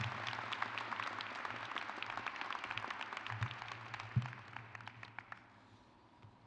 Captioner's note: crowd applauds; crowd cheers